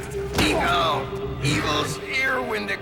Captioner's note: groans